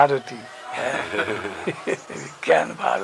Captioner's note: laughter